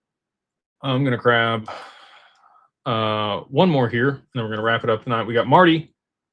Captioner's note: sighs